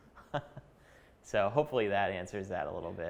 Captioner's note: chuckling